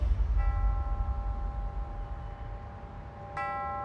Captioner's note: church bell tolls